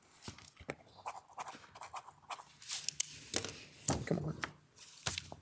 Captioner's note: pen signing